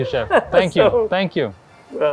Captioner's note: laughing